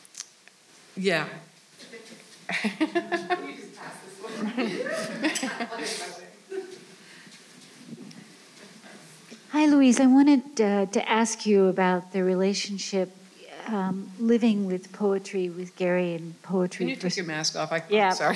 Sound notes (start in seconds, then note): 2.5 laughing